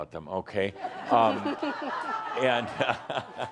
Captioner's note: laughter